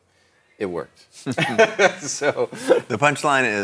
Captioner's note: both laughing